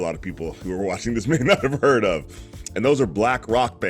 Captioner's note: chuckles